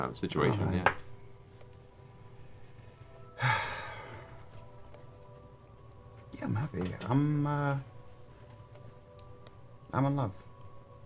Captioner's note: sighs